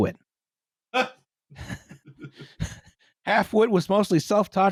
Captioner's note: single bark of laughter; chuckles softly